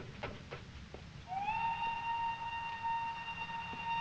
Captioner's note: train whistle blowing